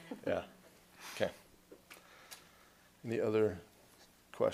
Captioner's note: laughter